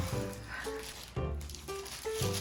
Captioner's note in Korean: 후우~